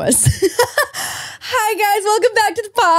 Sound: laughs

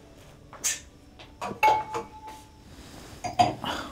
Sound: wine glasses clinking

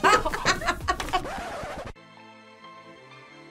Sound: both laugh; record scratches

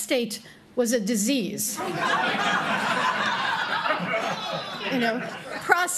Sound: laughter

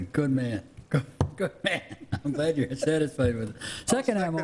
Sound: laughs

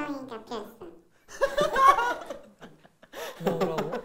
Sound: laughing

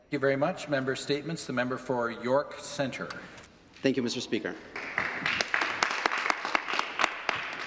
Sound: some applause

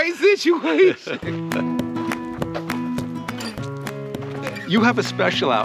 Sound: laughing; upbeat music

